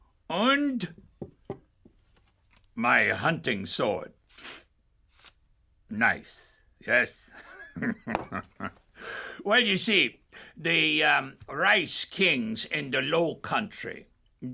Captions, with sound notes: und my hunting sword. Nice, yes. (laughs) Well, you see, the rice kings in the Lowcountry,